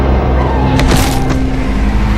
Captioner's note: intense instrumental music; car break squealing; body thudding; car tires squealing